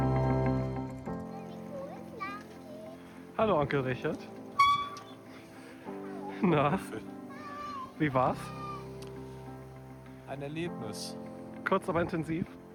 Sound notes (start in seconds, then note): 0.0 upbeat music; 3.7 speaking German